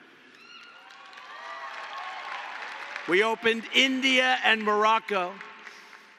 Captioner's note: applause